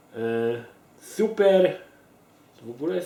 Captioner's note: Russian